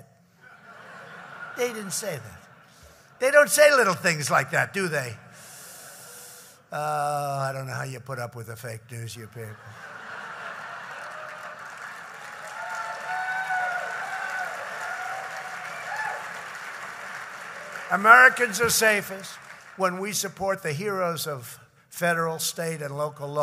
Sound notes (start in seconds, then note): 0.4 laughter; 9.5 laughter and applause